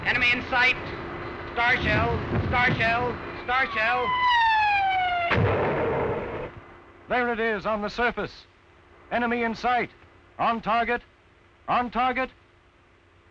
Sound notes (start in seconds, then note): 4.0 whistle; 5.2 loud pop; 7.3 voiceover